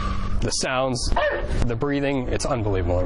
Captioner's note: whooshing; dog barking